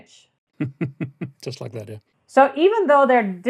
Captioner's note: laughs